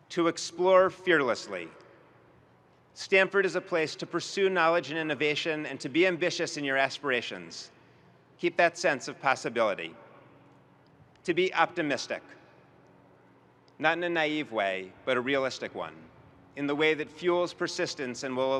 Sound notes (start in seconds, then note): none